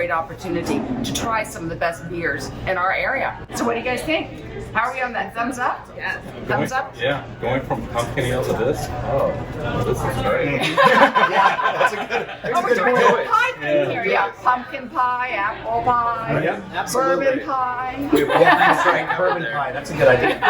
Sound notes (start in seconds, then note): 10.6 laughter; 18.0 laughs; 20.3 laughter